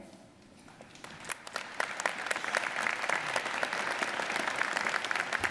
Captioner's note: audience applauding